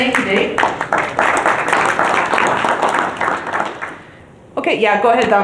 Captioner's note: applause